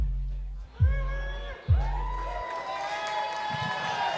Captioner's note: crowd cheers